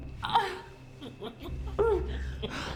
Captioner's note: Claire groans; Byler chuckling